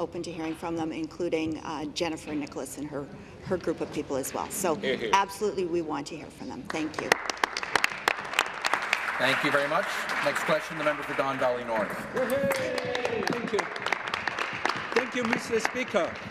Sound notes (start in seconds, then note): 10.8 applause